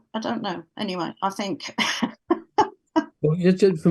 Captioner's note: laughs